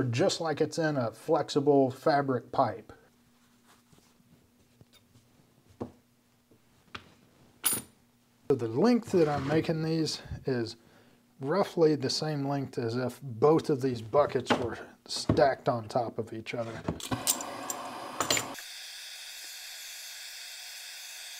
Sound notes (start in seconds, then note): 18.5 torch hissing